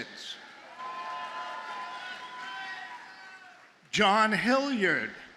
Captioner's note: audience cheers and applauds